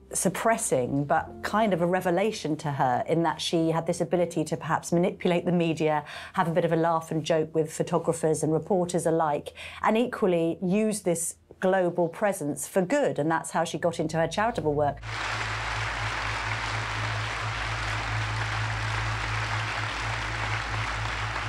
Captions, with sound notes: but kind of a revelation to her in that she had this ability to perhaps manipulate the media, have a bit of a laugh and joke with photographers and reporters alike, and equally use this global presence for good, and that's how she got into her charitable work. (audience applauding)